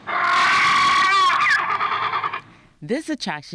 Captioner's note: dinosaur scream